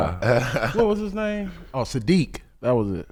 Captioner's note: laughing